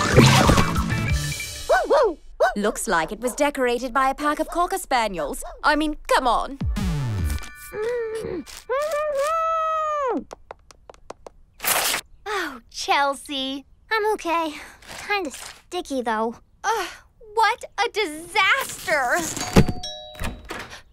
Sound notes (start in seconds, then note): 1.7 barking; 7.5 grunting; 19.4 doorbell rings